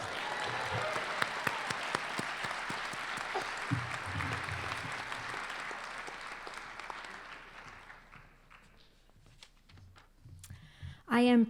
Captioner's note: applause